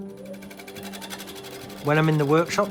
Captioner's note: machine whirring; uplifting piano music